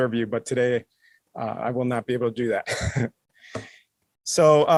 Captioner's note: laughs